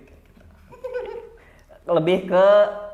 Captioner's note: laughing